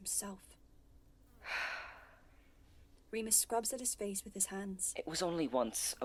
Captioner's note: Remus sighs